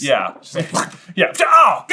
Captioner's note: sneeze noise